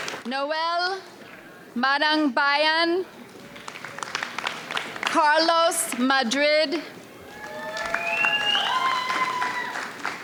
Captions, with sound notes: Noel Manungbayan. (audience applauds) Carlos Madrid. (audience cheers)